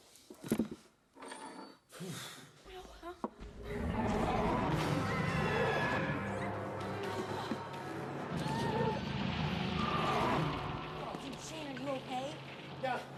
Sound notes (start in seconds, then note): 2.0 growling; 3.9 screams